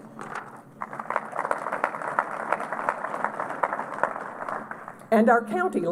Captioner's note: applause